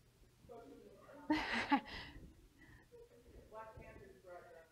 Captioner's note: laugh